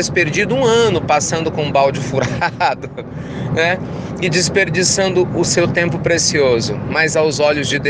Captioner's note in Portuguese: risos